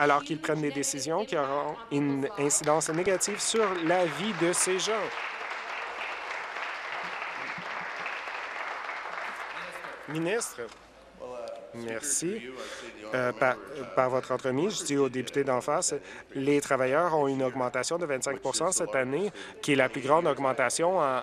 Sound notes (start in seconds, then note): 5.1 applause